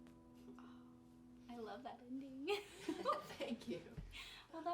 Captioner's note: giggling